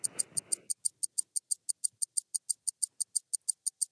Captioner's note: clock ticking